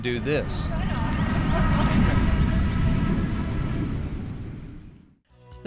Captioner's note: bikes whirring